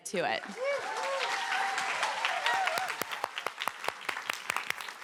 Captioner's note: cheering, applause